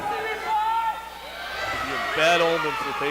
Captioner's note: crowd yells